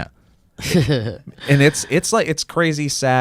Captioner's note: chuckling